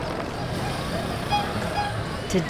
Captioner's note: horn honks